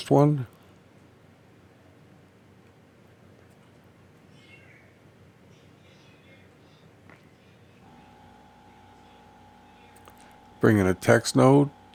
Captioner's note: silence